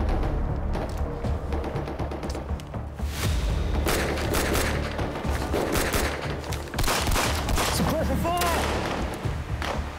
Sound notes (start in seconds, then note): 2.8 dramatic music; 3.8 gun banging